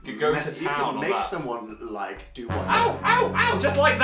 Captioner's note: dramatic sound effect